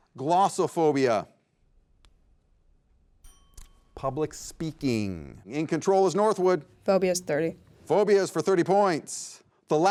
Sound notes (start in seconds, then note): 3.2 bell dings